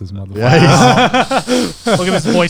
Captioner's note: guys laughing